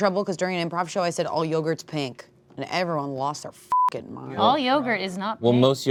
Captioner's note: beep